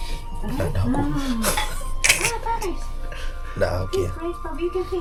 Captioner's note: laugh